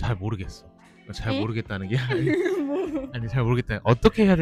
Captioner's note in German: laughs